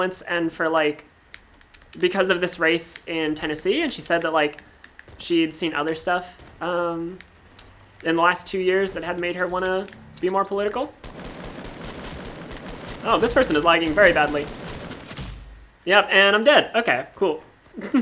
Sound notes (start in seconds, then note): 10.9 gunfire